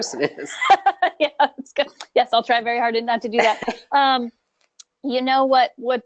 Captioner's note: laughing